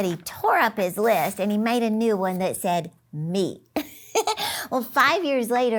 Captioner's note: laughs